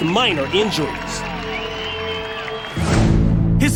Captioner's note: cheers and applause